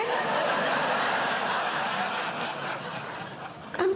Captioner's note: audience Laughing